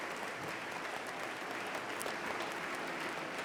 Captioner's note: applause